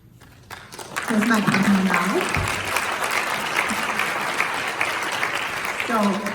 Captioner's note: claps